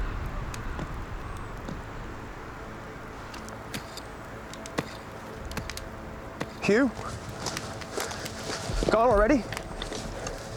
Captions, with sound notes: [DIGGING SOUNDS] HUGH? IS HE GONE ALREADY?